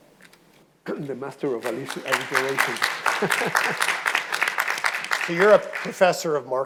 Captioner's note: audience applauding